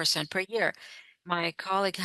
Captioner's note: speaking French